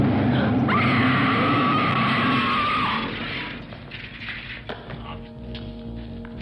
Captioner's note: screaming; screeching